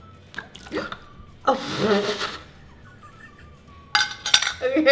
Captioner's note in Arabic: يضحك